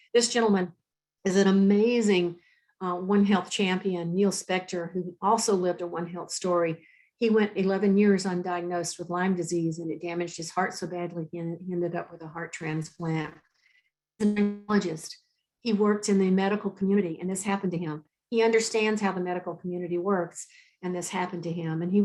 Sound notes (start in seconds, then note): 14.3 speaking faintly